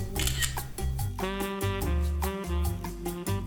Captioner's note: camera clicking